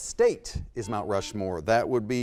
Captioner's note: beeping